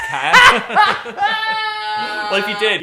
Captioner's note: Dan and Phil laughing